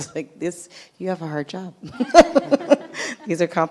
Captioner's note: laughing